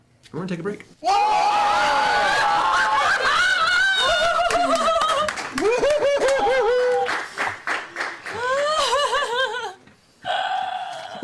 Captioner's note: yelling